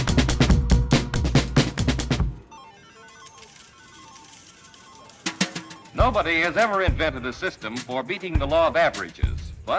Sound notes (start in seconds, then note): 2.6 bright music; 6.0 voiceover